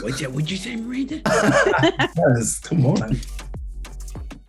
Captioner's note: group laughs